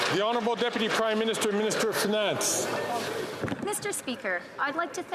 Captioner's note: some Applause